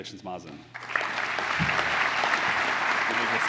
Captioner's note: applause